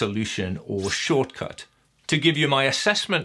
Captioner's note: slicing whoosh